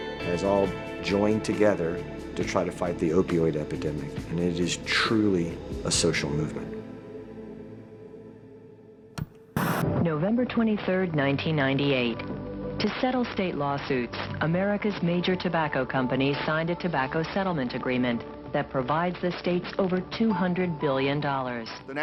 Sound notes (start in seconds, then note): 9.6 TV sounds